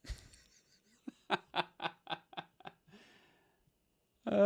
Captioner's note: laughs